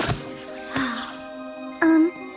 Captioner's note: sad music; sigh